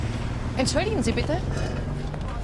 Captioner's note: in German